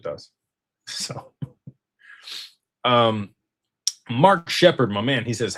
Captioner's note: snorts